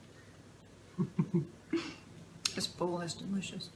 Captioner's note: laughter